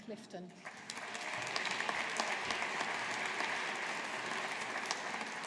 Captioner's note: audience applauding